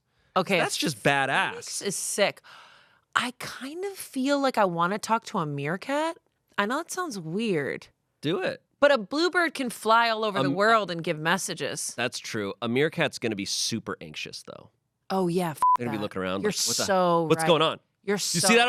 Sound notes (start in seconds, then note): 15.6 beep